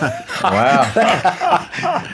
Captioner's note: laughing